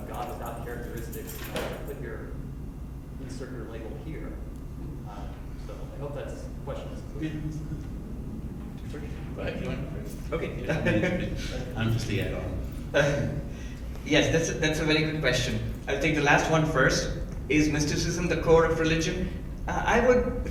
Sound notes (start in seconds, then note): 10.4 laughs